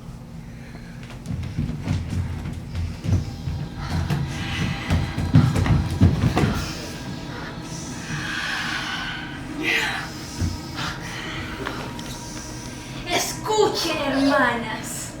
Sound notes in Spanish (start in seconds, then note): 4.2 Música misteriosa; 7.5 Suspiros